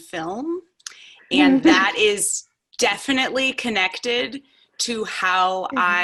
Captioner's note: laughs